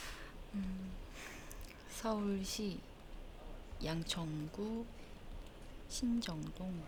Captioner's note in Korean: 콧방귀